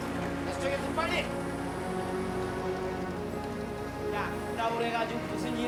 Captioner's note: speaking in foreign language